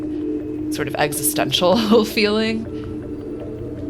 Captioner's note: ominous music; chuckling